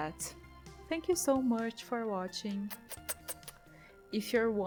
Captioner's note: kiss noises